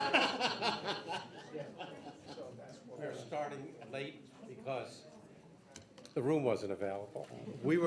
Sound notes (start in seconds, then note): 0.0 people laughing; 0.0 people chattering